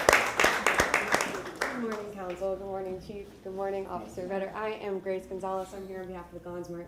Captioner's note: applause